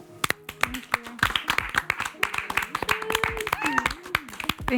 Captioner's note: group applauds